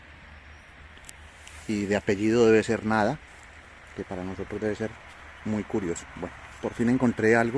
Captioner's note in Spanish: en español